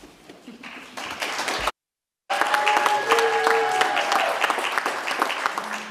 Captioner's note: audience cheers and applauds